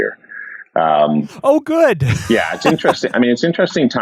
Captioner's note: laughs